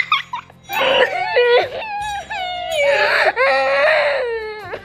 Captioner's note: crying noise